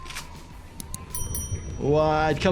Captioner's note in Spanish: sonido de campana